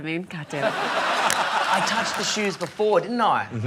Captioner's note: laughter